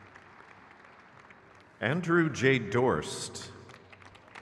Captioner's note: crowd claps